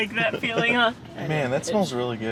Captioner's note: laughs